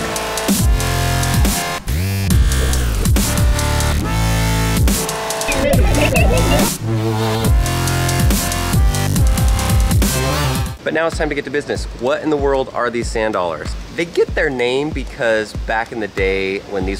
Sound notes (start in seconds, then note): 5.4 electronic music; 5.4 laughs